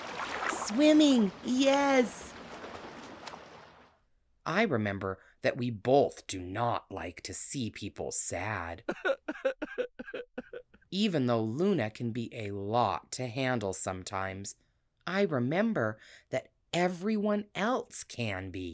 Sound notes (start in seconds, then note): 8.8 person crying